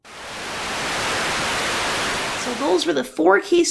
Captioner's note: Static